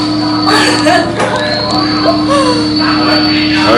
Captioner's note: laughs